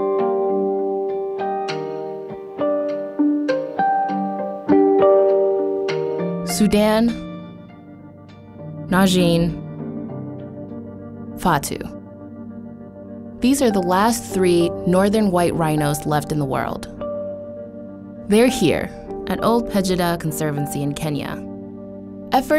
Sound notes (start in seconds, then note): 0.1 gentle instrumental music; 6.8 voiceover